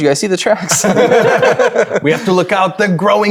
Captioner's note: players laughing